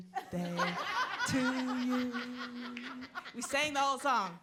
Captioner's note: all laughing